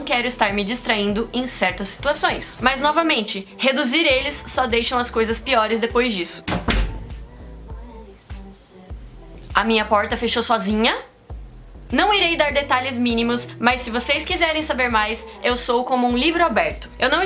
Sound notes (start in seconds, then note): 6.4 door closes